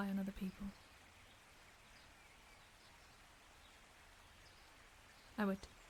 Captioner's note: birds continue chirping